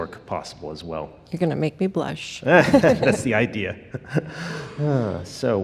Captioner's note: laughs